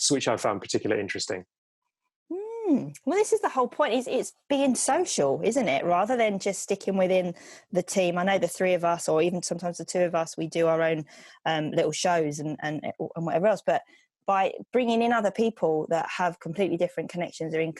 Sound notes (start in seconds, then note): none